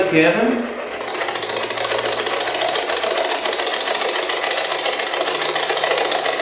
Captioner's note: white Noise